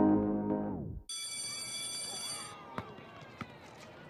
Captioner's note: school bell rings